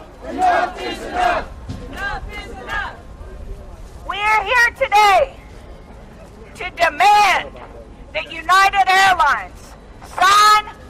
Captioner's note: chanting; chanting